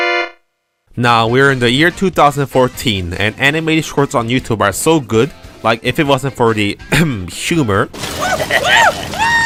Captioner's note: ahem